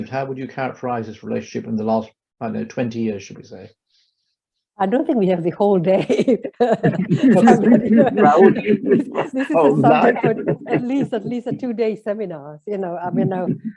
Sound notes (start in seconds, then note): 5.9 laughs